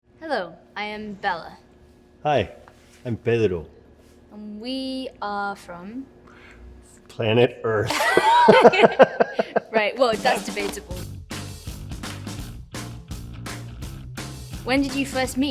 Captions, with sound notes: Hello, I am Bella. Hi, I'm Pedro. And we are from... Planet Earth. (LAUGHTER) Right, well, that's debatable. "When did you first meet?"